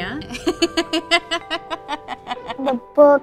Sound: laughs

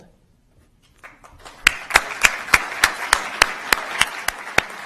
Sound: applause

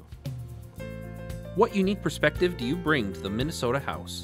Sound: voiceover

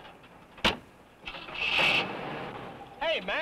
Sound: engine rumbles

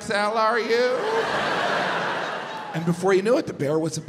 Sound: audience laughs

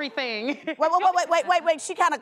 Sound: laughing

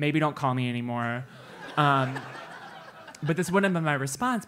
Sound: laugh

